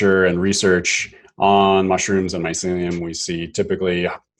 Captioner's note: none